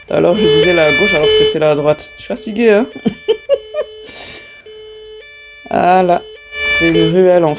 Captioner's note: laughs